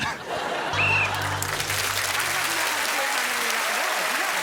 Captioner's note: laughing and applause; whistle blows